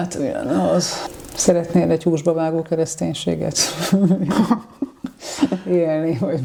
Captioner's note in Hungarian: nevetés